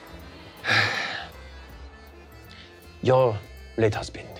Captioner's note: sighing